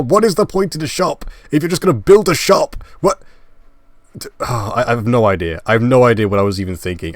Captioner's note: sigh